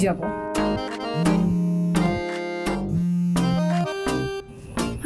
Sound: phone rings

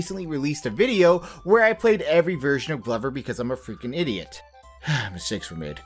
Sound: sigh

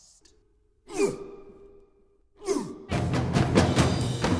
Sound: grunting; dramatic music

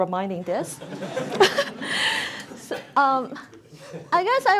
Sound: audience laughs

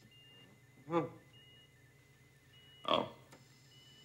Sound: Donald groans

